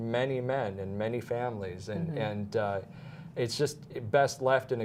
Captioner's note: audio cutting in and out